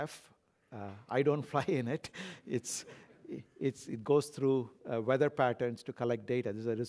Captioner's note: laugh